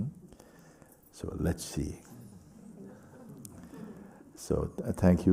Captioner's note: laughter